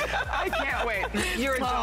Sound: laughter

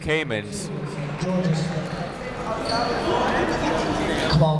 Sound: chatter

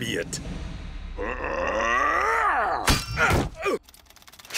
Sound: grunting

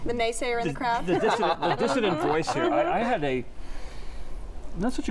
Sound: laughter

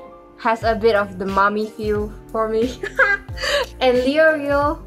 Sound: horny ass laugh

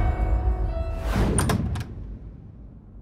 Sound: door opens

